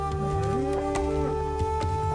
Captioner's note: cow mooing